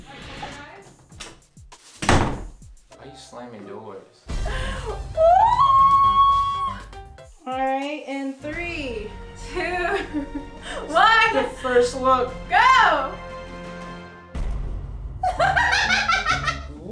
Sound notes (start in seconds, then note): 2.0 door slams; 5.2 screams; 15.3 laughs